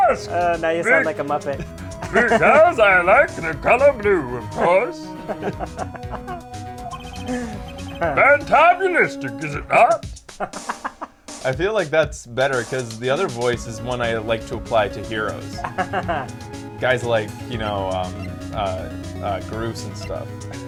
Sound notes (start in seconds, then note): 1.9 laughs; 2.8 silly voice; 4.5 laughter continues; 8.5 silly voice; 10.4 laughs; 15.2 laughs